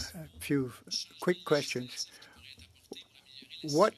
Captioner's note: speaking French